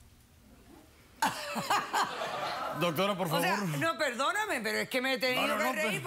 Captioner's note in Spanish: risas